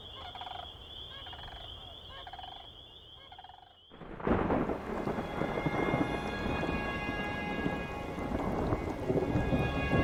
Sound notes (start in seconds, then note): 4.0 thunder booming; 6.4 sparse tense music